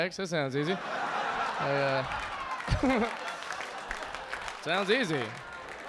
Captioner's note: audience laughing